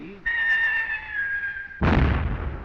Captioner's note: bomb whistling; explosion in distance